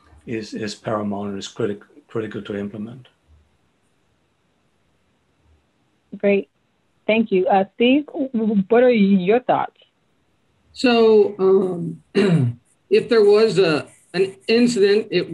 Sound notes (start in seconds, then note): 10.8 clears throat